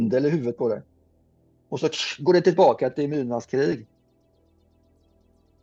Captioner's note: making a static sound